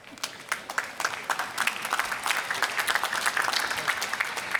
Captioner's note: applause